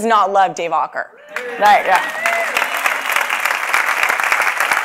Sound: clapping

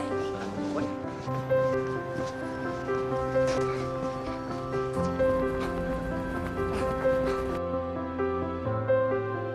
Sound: panting

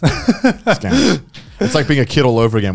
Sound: laughing

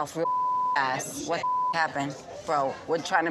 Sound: beep

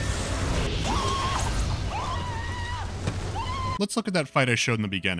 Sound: Marv scream

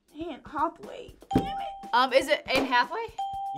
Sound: bell rings

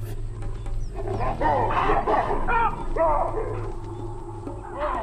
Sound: baboons barking

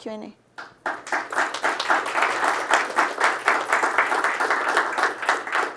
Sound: audience applauding

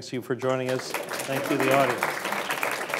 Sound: applause

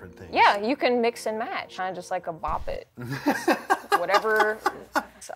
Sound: laughs

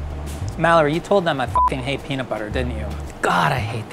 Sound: beeps

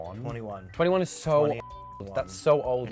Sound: beep

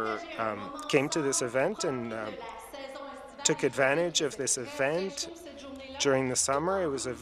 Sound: speaking French

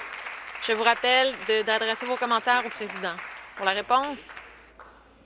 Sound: some Applause

